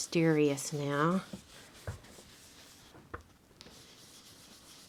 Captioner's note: brush scrubbing